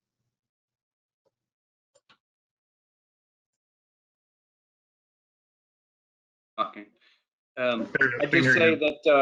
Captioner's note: pause